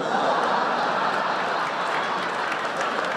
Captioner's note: laughter